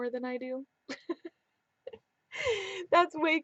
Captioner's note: laughing